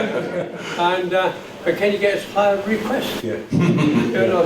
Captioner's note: chuckles